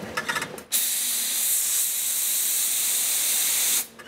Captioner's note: hissing